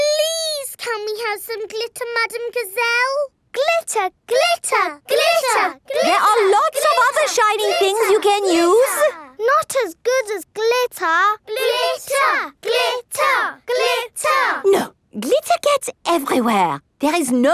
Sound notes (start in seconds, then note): 4.3 chanting; 11.5 chanting